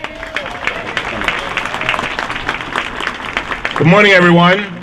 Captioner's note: applause